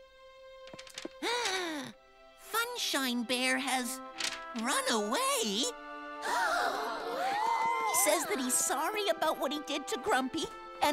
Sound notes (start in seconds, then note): 0.5 gasp; 6.0 shocked gasps